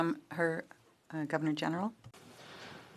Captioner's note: speaking French